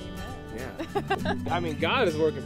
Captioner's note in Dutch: Tracey lacht